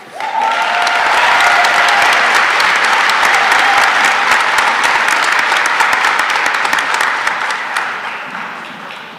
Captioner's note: cheering and applause